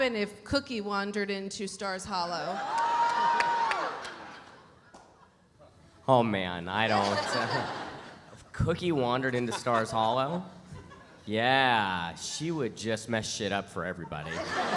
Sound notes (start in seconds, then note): 2.4 audience cheering; 6.9 chuckles; 14.0 audience laughs